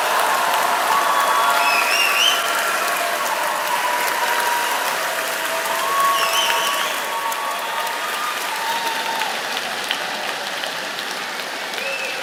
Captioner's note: cheers and applause